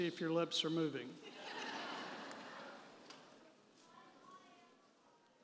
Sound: audience laughing

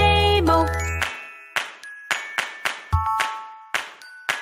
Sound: clap

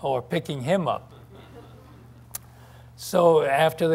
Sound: scattered laughter

